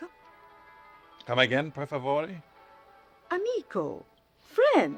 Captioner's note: speaking foreign language